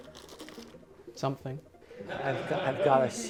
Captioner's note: laughter